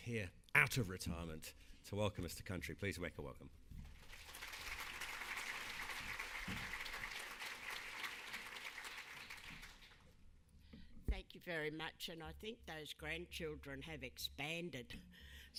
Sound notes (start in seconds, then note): 3.9 crowd applauding